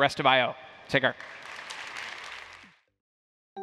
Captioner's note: applause